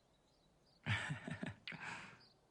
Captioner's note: chuckles